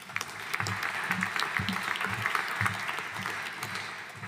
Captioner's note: audience applauding